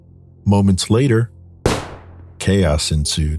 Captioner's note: gunshot